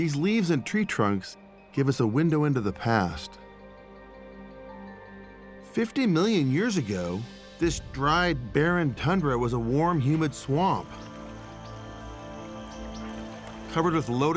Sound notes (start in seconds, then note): 9.5 insects chirping